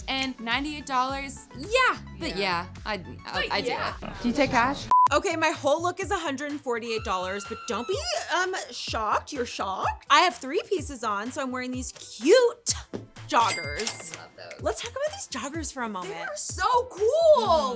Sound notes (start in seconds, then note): 4.9 electronic beeping; 7.2 woman screaming; 13.4 cash register chiming